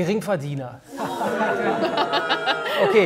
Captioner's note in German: Buhrufe, Lachen